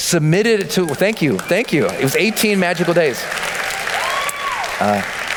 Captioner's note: applause